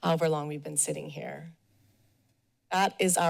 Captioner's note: pause